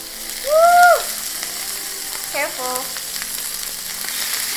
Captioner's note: scream of joy